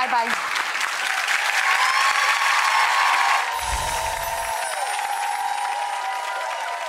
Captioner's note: audience cheering and applause